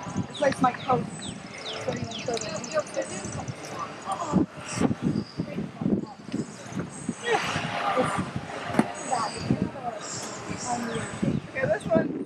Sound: snarfling

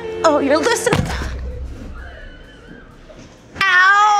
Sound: thud

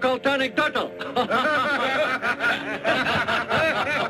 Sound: men laughing

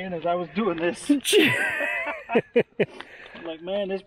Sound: both laughing

